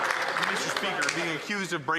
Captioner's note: some Applause